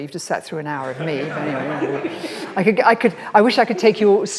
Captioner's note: audience laughs